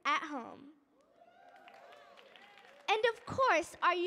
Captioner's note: audience cheering